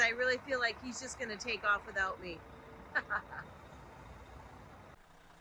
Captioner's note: laughs